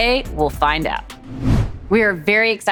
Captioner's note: whoosh